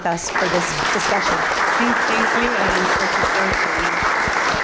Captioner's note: applause